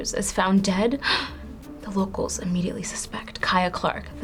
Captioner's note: gasps